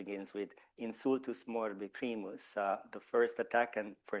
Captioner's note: speaking Latin